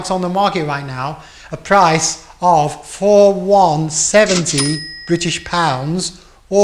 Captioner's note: dings